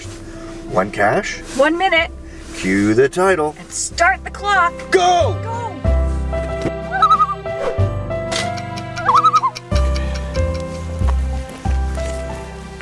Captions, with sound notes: One Cache. -One minute. -Cue the title. -Start the clock. -Go! -Go! [loon calls] [loon calls]